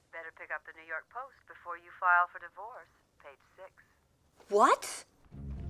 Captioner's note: none